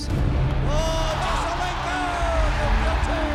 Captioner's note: commentator cheering